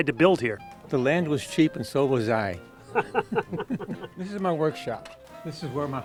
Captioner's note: laughs